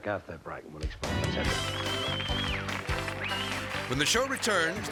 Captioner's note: audience applauding